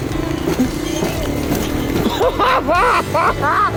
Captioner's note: laughs maniacally